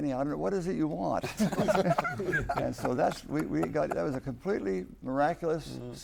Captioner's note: laughter